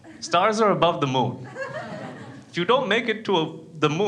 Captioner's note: crowd laughs